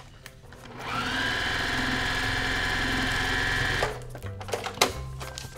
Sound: sewing machine grinding; soft music

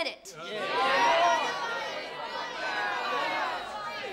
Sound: crowd shouting

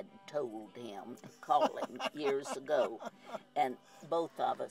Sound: laughs

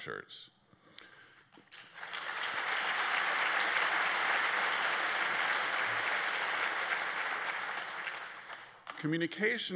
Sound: applause

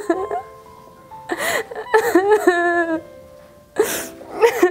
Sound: she burst into tears

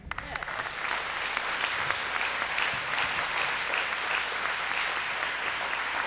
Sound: applause

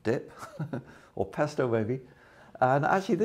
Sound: chuckles

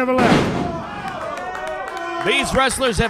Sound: clapping

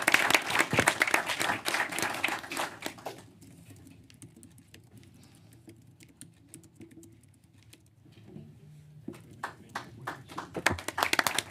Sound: applause

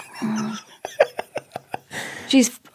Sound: laughing

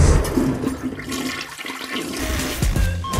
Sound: toilet flushing

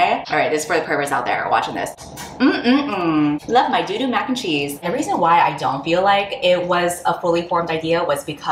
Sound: smacks lips

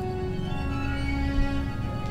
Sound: door Creaks

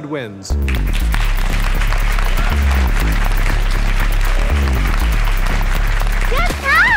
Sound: crowd clapping

